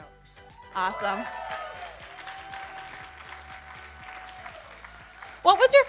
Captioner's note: audience cheering